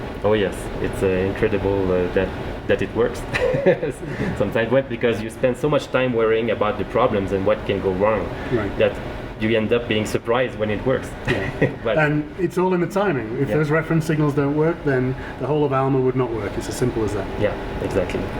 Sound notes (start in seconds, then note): 3.3 both Laugh; 11.2 laughs